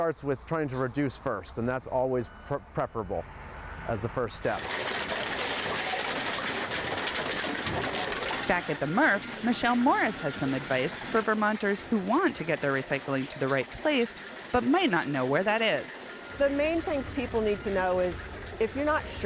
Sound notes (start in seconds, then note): 5.3 objects crashing